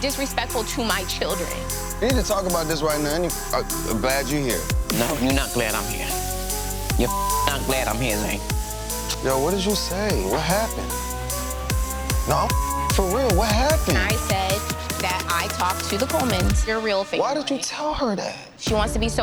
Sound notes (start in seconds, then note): 7.0 beep; 11.0 tense music; 12.4 beep